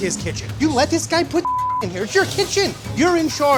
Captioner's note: beep